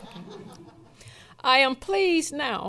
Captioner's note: laughing